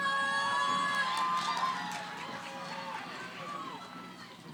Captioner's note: cheering